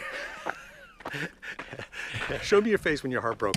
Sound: laughs

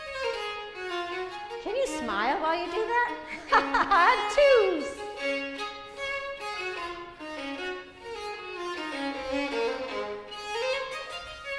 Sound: laughter

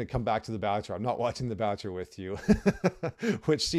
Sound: laughs

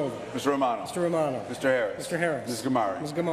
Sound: none

